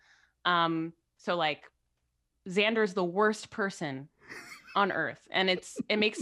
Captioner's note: laughs